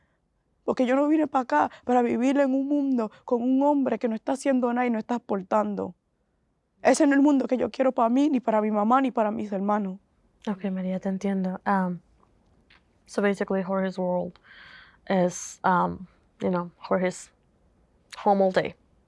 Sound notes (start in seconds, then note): 11.1 Spanish